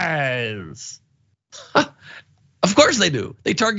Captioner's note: laugh